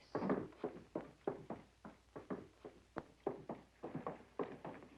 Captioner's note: footsteps tapping